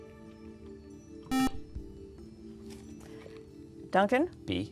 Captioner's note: buzzer